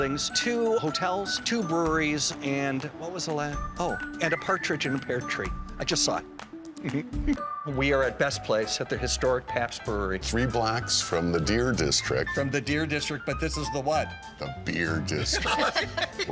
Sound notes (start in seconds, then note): 6.8 chuckling